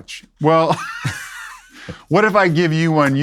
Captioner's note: laughs